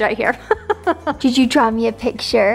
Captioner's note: laughing